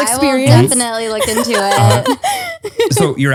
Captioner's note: laughs